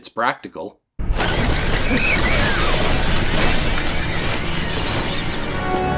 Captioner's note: bats chirping, wings flapping